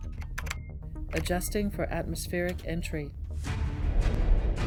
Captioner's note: computer Voice